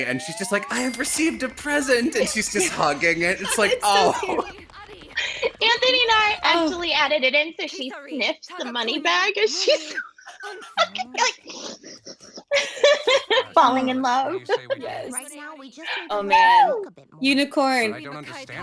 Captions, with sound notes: and she's just, like, I have received a present! And she's just hugging it. It's, like, oh! - Anthony and I actually added it in so she sniffs the money bag as if she's... (laughs) (sniffs) (laughs) falling in love. - Yes. Oh man. Unicorn!